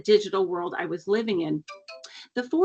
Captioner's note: cellphone chimes